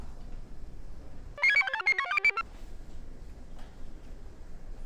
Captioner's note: computer chirps